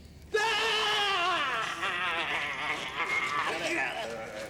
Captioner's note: yelling